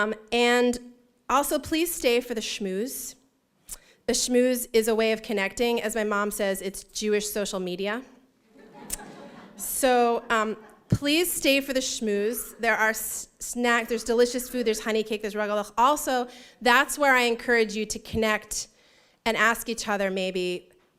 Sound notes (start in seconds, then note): 8.5 laughter